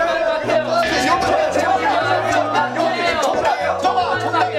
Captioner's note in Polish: Krzycząc głośno